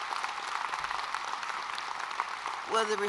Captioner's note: applause